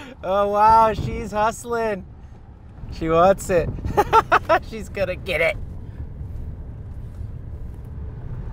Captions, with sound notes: - Oh wow, she's hustling. She wants it. (laughing) She's going to get it.